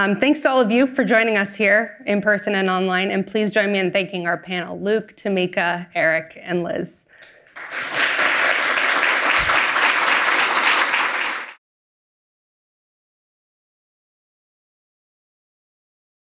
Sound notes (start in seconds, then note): 7.5 audience applauds